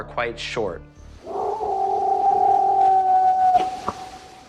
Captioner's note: howling, knocking